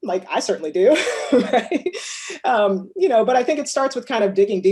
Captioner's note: laughs